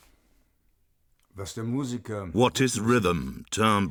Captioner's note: speaks in German